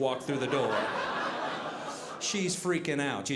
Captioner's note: audience laughing